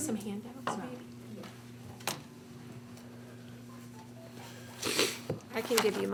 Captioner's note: phone ringing